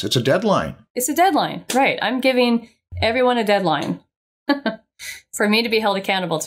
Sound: chuckles

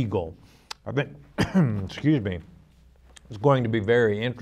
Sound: coughing

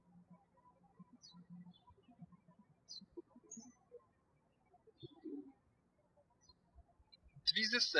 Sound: birds chirping

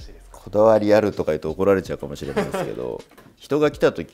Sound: laughs

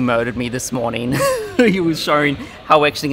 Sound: laughs

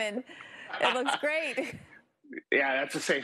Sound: laughs

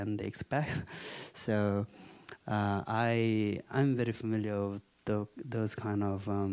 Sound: chuckling

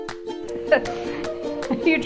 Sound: laughing

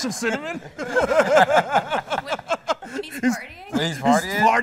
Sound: laughter

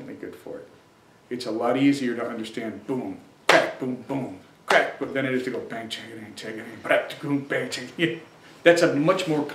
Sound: claps prominent beat

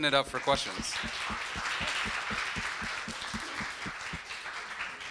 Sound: crowd applauding

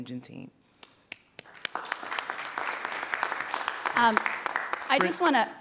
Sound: audience applauding

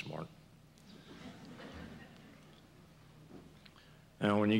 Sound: laughter

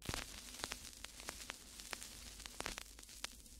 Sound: static crackling

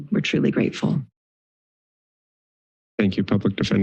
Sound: silence

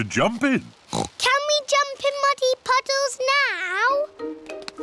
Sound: oinks

